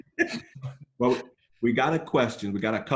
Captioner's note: laughs